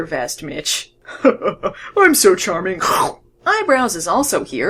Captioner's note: kkrskarf